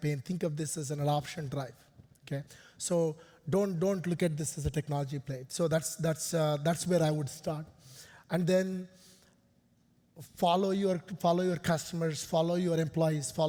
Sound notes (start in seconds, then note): none